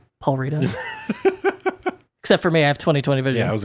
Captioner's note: laughing